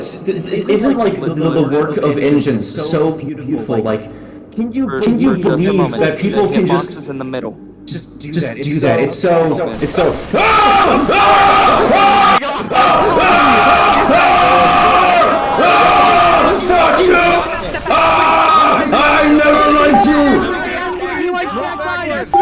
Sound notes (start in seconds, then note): 0.4 In TF2's voicechat